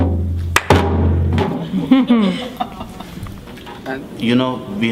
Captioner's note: laughter